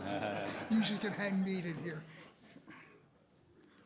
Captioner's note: laughter